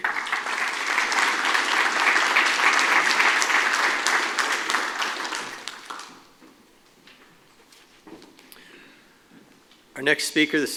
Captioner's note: applause